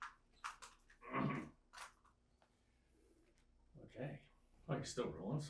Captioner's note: clears throat